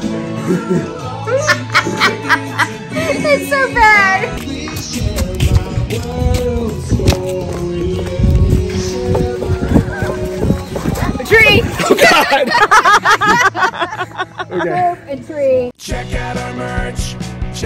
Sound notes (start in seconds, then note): 1.2 laughing; 11.6 laughing